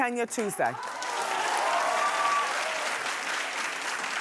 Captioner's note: cheering